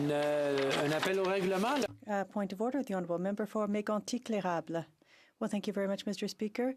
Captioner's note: some Applause